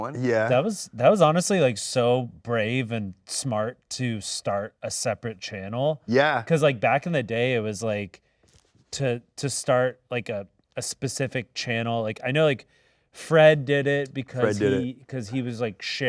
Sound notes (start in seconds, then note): none